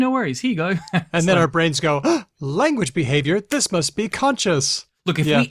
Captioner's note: gasps